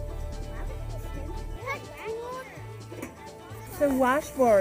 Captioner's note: children chatting